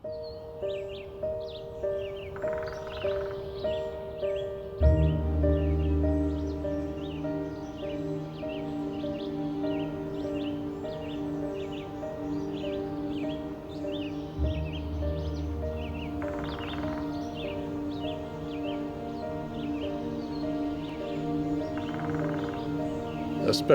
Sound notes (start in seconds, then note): 0.1 tranquil music; 8.1 birds singing